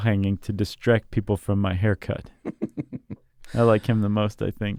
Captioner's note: laughs